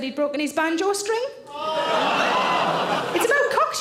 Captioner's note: audience gasp